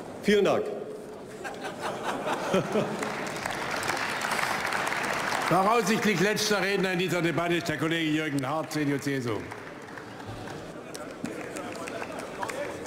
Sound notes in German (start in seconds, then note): 8.1 Beifall bei Abgeordneten der CDU/CSU